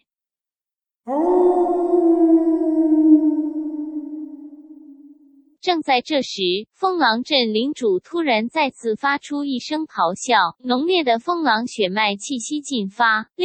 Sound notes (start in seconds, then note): 1.0 howling sound